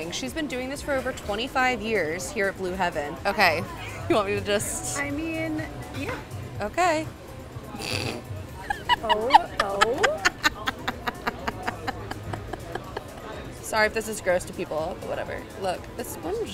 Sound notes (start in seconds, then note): 8.6 laughing